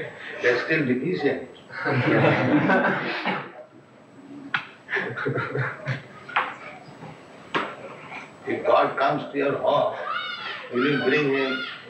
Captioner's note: laughter